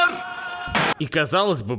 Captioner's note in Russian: помехи